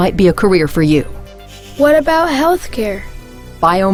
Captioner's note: voiceover